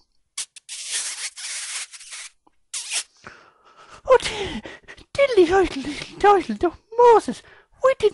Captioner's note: sound of kiss